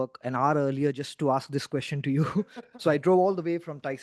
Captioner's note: chuckling